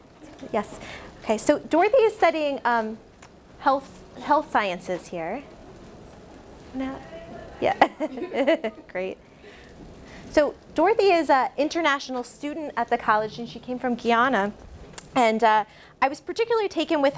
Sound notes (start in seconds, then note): 7.6 laughs